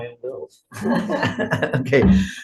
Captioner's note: group laughing